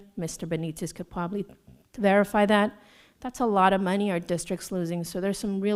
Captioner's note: none